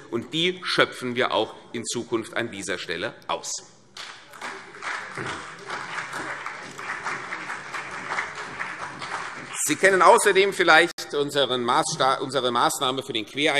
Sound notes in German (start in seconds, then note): 4.0 Beifall CDU und BÜNDNIS 90/DIE GRÜNEN